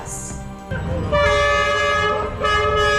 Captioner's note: choo-chooo